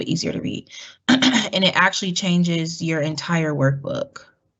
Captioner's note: cough